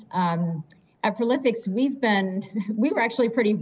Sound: chuckles

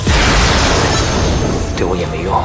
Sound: spark of Electricity

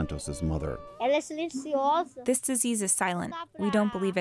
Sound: through translator

